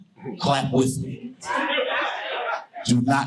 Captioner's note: audience laughing